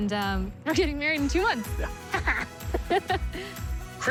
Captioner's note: laughs